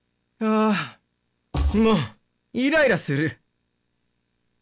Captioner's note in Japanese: ぶつかる音：ドスン